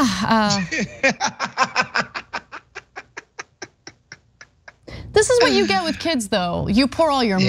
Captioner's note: laugh